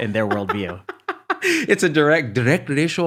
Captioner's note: laughing